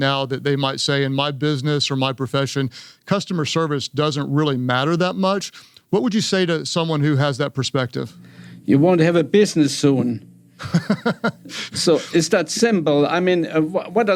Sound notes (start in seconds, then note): 10.6 Craig laughing